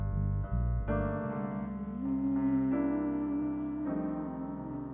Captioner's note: chanting